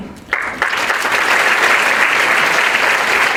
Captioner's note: applause